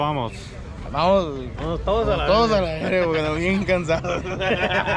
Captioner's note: man speaking foreign language; men speaking foreign language; men laughing